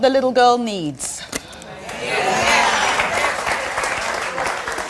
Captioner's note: audience applauding